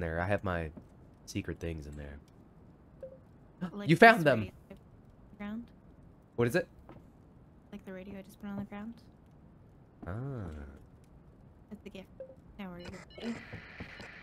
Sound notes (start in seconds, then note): 3.0 beep